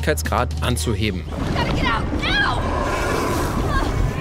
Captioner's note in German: Monstergrollen